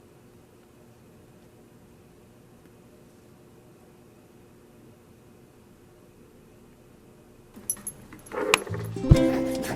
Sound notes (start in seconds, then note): 0.0 silence